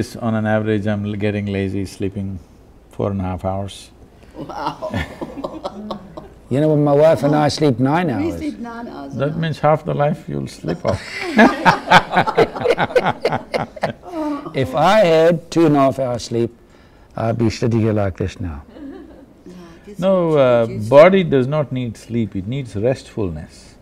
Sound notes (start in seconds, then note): 4.3 laughs; 10.6 laughter